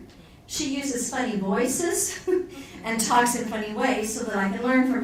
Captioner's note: laughs